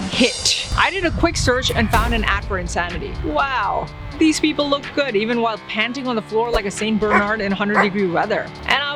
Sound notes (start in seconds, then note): 7.0 dog barks